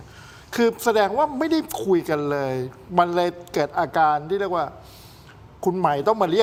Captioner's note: takes a deep breath